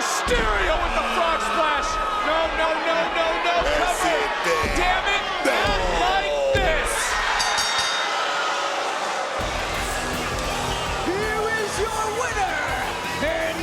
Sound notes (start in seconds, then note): 7.3 bell dings